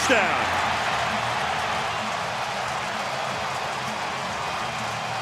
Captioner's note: cheering